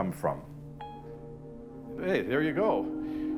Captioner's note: phone beeps